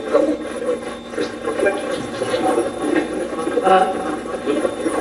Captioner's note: Steve's Box chatters